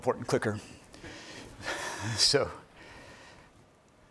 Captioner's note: laughing